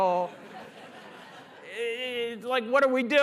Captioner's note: laughter